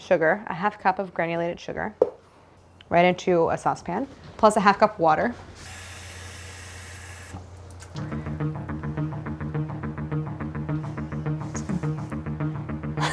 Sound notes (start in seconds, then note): 5.7 water sloshing; 8.0 upbeat music